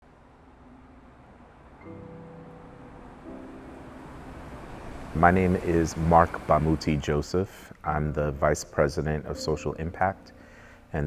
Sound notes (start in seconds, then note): 1.9 gentle music; 1.9 train swooshing